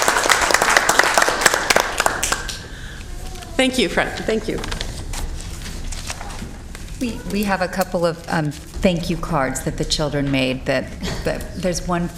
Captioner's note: applause